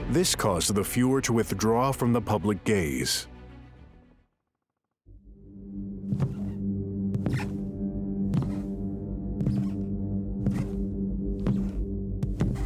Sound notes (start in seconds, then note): 5.6 dark music; 6.7 footsteps thumping